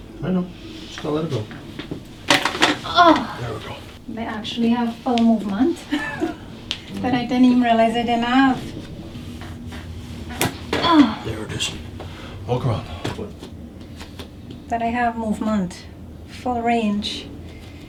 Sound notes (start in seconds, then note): 1.8 loud cracking; 3.6 relieved grunt; 10.6 cracking; 10.7 relieved grunt